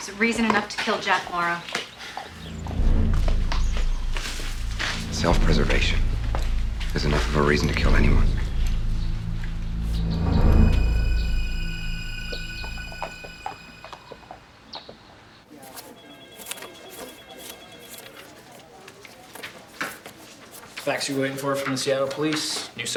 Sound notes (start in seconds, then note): 9.8 tense music; 15.9 phone ringing; 16.4 chattering